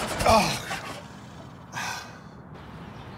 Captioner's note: engine gurgling; sighs